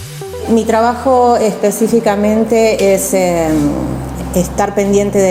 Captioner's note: speaking in foreign language